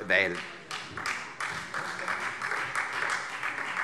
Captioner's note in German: Beifall Freie Demokraten